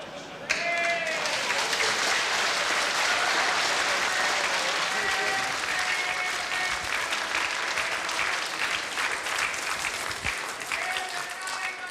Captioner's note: applause